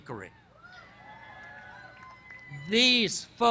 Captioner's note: cheering